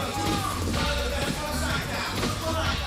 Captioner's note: crowd cheering